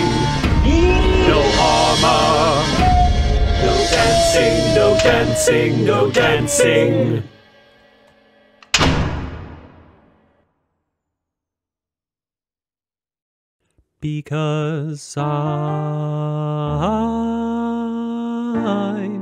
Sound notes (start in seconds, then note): 8.6 door slams